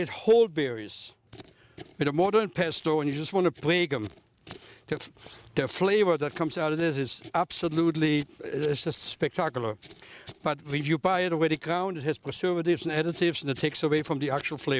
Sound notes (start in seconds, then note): 5.5 chopping